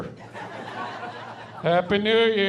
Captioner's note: laughing